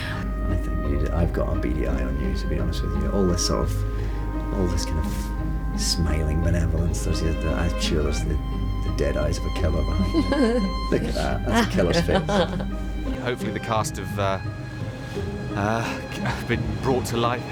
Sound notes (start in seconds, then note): 9.9 laughs